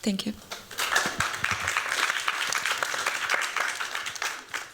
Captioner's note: applause